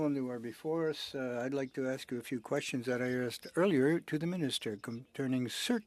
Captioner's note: speaking French